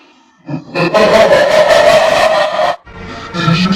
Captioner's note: evil laugh